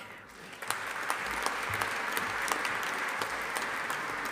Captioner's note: audience applauding